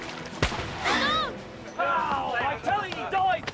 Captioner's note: booming